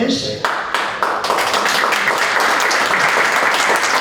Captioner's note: applause